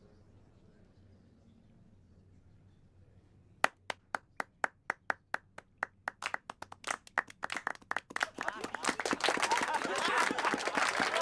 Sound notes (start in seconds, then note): 3.6 applauding